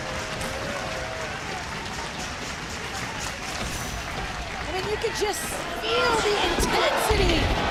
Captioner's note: audience cheering